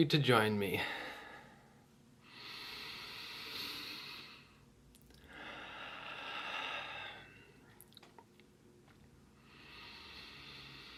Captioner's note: deep breaths